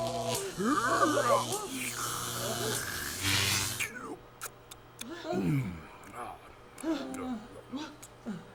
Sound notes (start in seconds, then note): 1.8 slurping